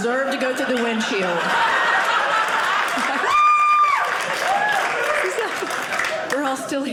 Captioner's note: audience laughing